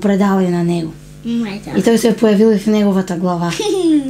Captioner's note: laughing